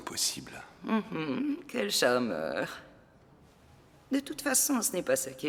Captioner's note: giggles